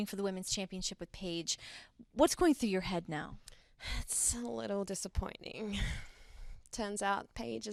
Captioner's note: none